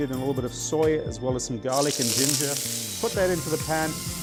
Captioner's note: pan sizzling